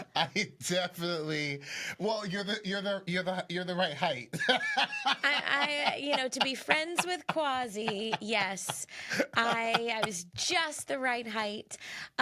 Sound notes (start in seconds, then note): 4.2 laughs